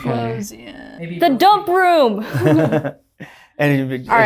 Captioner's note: laughter